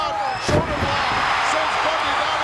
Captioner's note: audience cheering